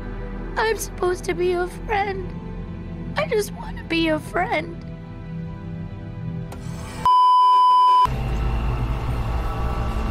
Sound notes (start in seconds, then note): 7.0 beeeeeep